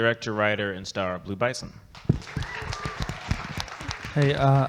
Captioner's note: audience clapping